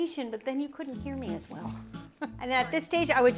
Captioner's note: chuckles